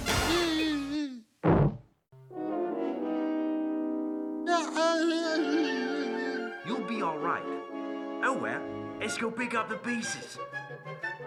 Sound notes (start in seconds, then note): 1.4 thumping; 5.2 sobbing